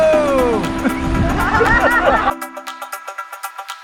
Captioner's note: laughing